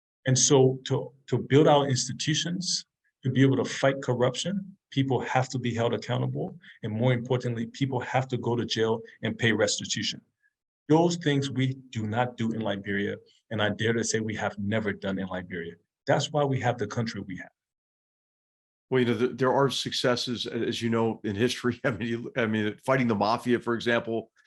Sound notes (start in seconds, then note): 21.8 laugh